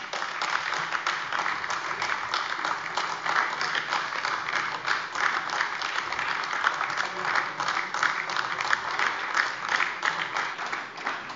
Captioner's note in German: Anhaltender lebhafter Beifall AfD